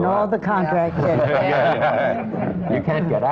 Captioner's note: laughter